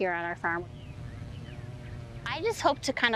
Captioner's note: bee buzzing